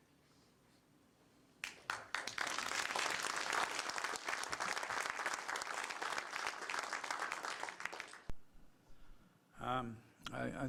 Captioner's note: applause